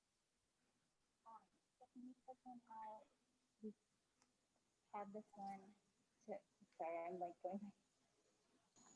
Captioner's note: indistinct chatter